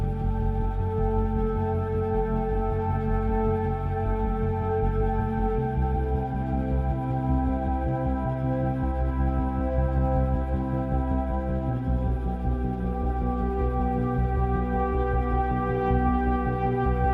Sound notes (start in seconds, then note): none